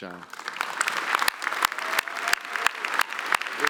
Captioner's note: applause